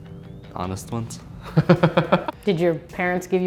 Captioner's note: interviewer laughing